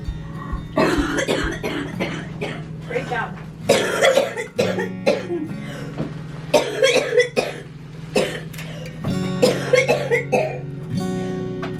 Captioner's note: coughing